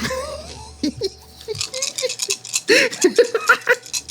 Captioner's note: laughing